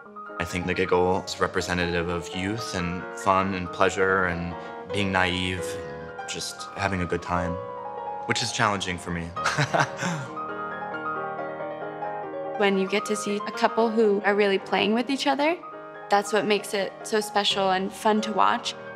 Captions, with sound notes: - I think The Giggle is representative of youth and fun and pleasure and being naïve and just having a good time. Which is challenging for me. [laughs] - When you get to see a couple who are really playing with each other, that's what makes it so special and fun to watch.